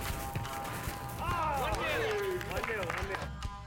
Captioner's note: speaking Japanese